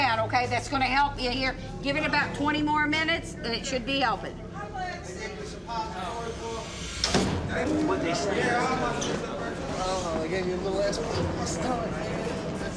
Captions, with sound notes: That's going to help you here. Give it about 20 more minutes, than it should be helping. [slam]